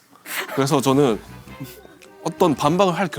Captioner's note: suppressing laughter